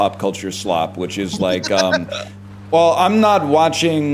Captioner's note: laughs